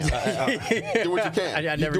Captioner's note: laughing